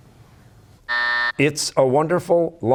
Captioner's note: buzzer